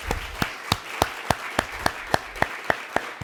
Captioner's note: applause